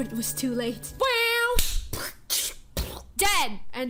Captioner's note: poorly imitating sound effects with mouth